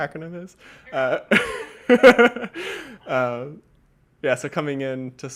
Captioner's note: laughing